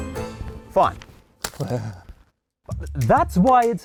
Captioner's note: chuckles